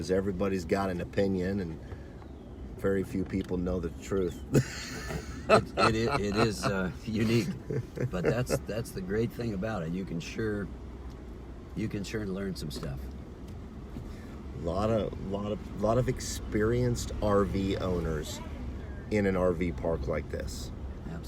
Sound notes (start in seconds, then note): 4.5 laughs